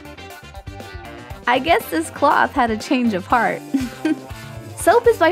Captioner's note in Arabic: ضحكة مكتومة